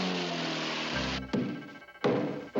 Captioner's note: banging on door